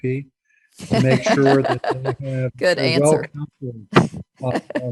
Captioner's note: laughs